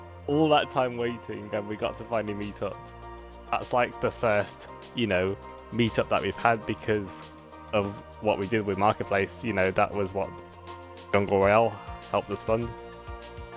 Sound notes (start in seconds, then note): none